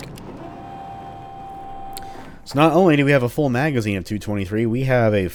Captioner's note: door opening